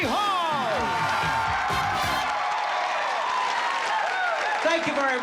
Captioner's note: cheering